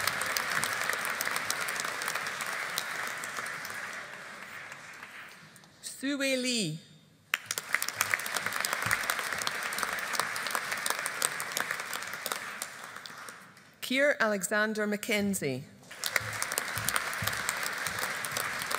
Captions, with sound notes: Hsu-Wei Lee. (AUDIENCE APPLAUDING) Keir Alexander Mackenzie. (AUDIENCE APPLAUDING)